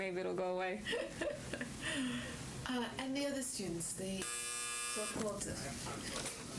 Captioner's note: laughs; phone buzzes